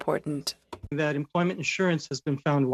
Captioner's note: speaking French